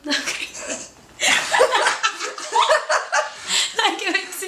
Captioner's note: laughter